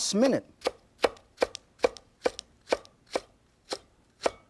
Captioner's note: knife chopping